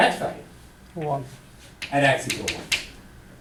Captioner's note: voiceover